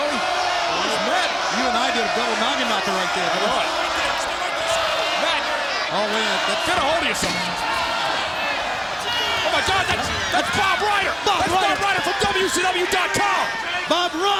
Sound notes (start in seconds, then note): 8.5 crowd clamoring